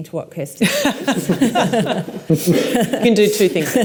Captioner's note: laughs